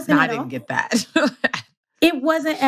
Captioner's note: laughs